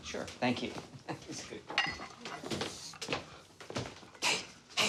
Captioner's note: laughs